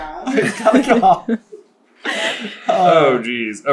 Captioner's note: laughing